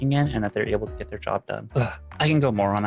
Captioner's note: none